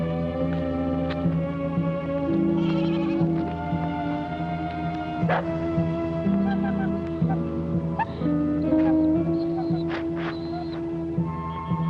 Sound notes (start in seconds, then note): 5.2 dog barking; 8.7 dog whimpering